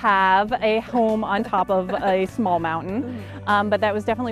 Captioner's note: laughing